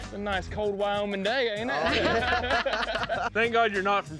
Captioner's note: all laughing